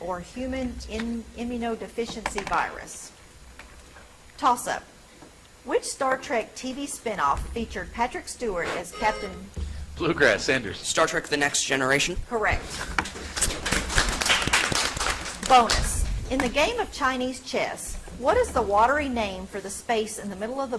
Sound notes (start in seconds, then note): 8.6 buzzer chimes; 13.4 audience applauds